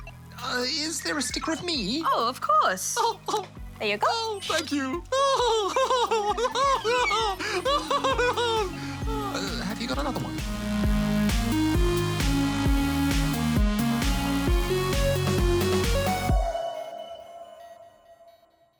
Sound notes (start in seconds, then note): 4.0 laughs